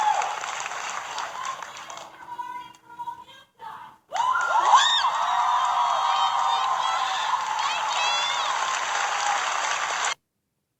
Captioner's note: audience member yells; cheering